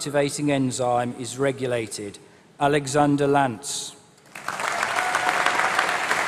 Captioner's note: applause